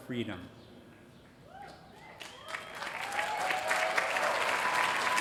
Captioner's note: applause